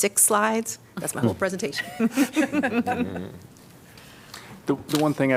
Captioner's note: laughter